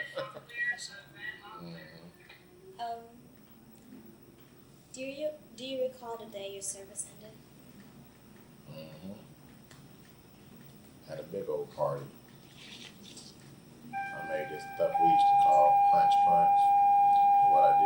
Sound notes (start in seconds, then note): 0.0 laughs; 0.2 both laugh; 10.5 fire siren sounds